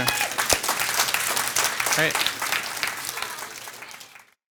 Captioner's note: participants clapping